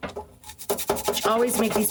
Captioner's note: scrapes nutmeg on grater